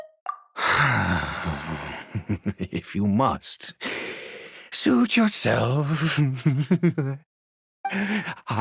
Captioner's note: sigh